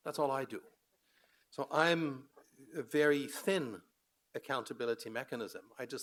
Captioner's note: none